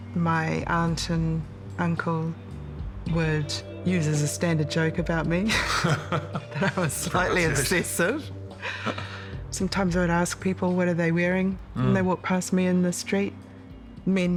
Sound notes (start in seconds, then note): 5.4 both laugh